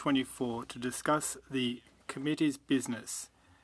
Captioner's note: speaking French